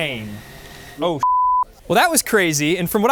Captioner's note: beep